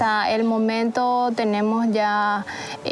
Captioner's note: speaking In Foreign Language